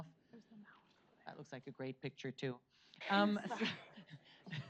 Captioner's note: chuckles